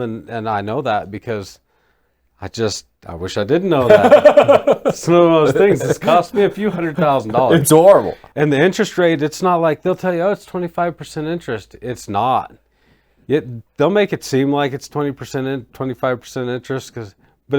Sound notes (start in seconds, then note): 3.8 laughing